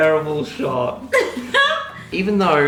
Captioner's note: laughing